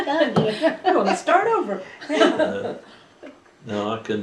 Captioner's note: laughter; laughing